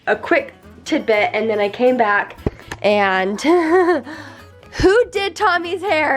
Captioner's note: laughs